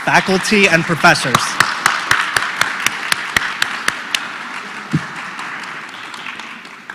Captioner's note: applause